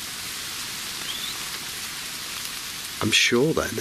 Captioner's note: whistling